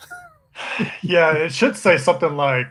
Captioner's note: laughs